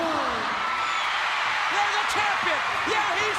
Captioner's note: crowd cheering